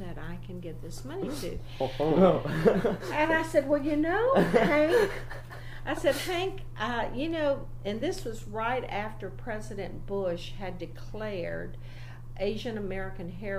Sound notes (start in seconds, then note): 2.0 begins laughing